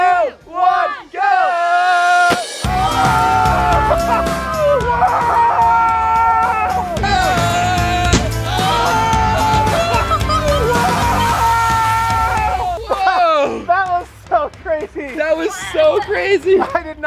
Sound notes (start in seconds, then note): 2.2 pop; 3.1 group screams; 8.1 pop; 8.5 group screams